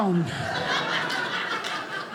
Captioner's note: audience laughing